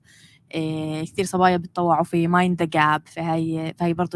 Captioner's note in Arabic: لغة أجنبية